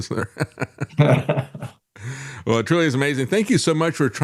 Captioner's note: laughing